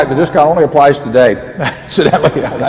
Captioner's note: laughs